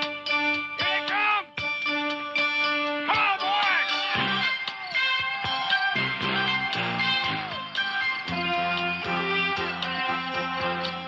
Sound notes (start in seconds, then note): 3.1 cheering; 8.1 dramatic music